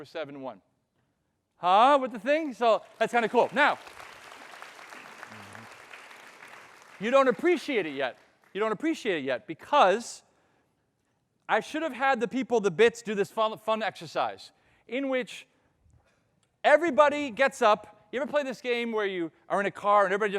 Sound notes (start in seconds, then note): 2.3 audience applauding